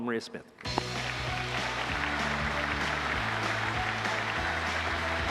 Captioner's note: applause